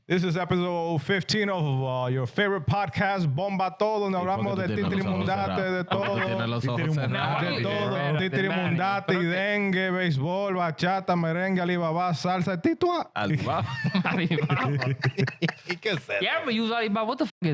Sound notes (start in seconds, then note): 4.2 laughing; 4.2 speaking In Foreign Language